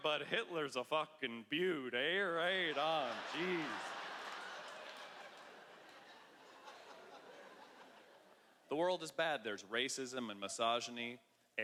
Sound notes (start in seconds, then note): 2.6 laughter